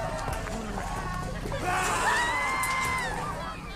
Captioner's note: roars